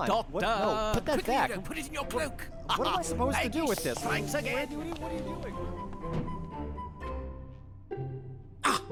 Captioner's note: fading protests